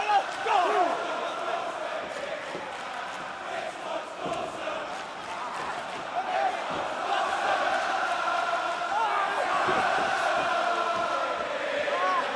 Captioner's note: crowd chatter